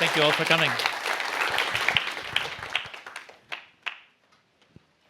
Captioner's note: applause